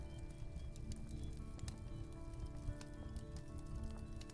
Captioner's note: sounds of crackling fire